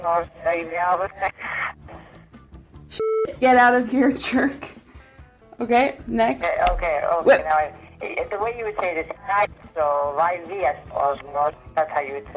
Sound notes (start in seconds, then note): 0.2 speaking Italian; 3.0 beep; 9.4 speaks Italian